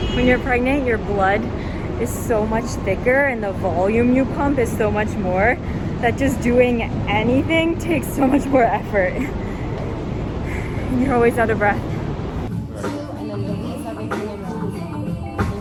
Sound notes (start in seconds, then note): 9.1 panting